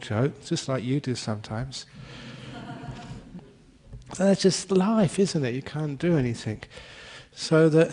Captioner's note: laughter